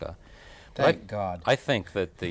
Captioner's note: laugh